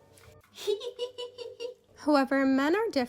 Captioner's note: kind of sweet but creepy laughter